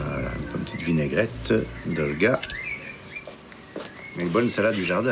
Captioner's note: speaking in foreign language